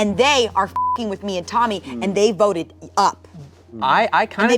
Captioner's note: beep